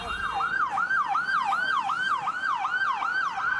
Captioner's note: horns tooting and siren; siren wailing